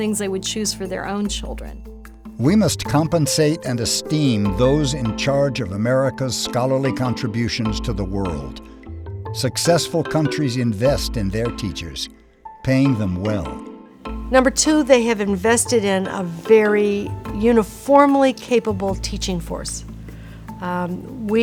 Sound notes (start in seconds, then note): 2.5 voiceover